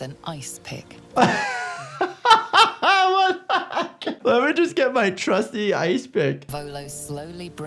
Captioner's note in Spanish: risas